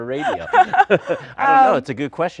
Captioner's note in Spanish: Risas